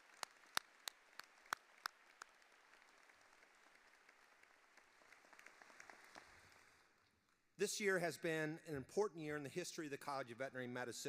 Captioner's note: applause